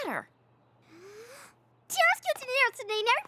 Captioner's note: inhales deeply